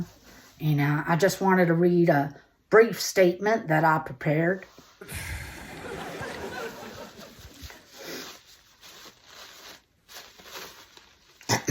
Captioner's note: audience chuckles